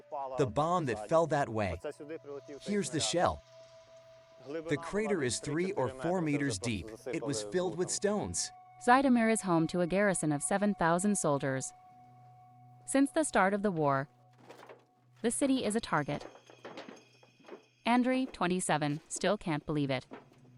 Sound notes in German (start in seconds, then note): 15.7 Schritte